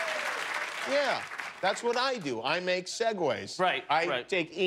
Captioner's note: cheers and applause